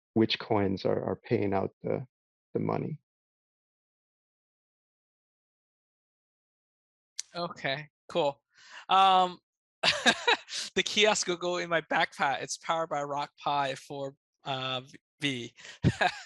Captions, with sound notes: which coins are paying out the money. - Okay, cool. (laughs) The kiosk will go in my backpack. It's powered by Rock Pi 4V.